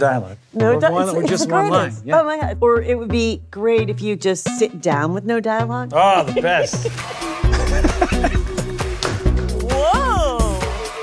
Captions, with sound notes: -Yeah, no dialogue. Or just one line. -It's the greatest. Or it would be great if you just sit down with no dialogue. -Ah, the best. -(CHUCKLES) (LAUGHTER) Whoa!